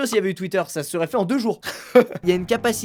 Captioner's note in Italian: risate